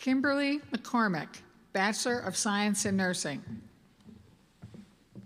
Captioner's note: none